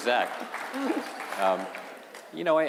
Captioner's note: applause